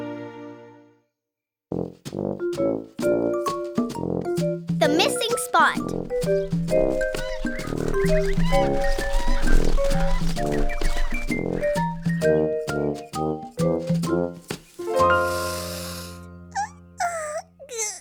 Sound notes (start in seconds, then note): 7.0 cackling/screeching; 15.2 inhaling; 17.0 yawning